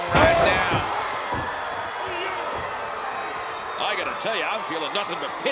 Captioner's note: applause